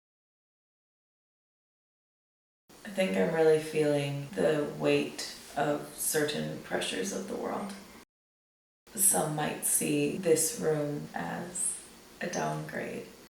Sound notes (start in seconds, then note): none